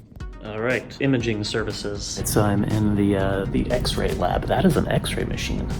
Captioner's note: whispering